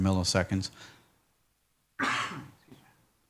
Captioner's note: coughs